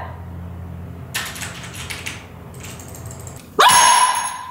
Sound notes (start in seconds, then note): 1.1 keyboard clicking; 3.5 bell rings; 3.6 dog screams